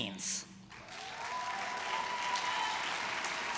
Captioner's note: applause